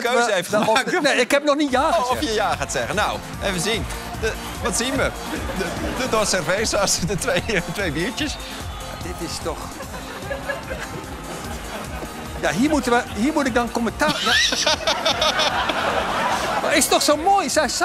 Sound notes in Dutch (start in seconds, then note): 14.0 gelach; 17.6 applaus en gejuich